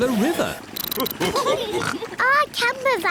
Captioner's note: all laugh